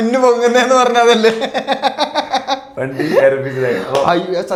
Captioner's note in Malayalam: പൊട്ടിച്ചിരി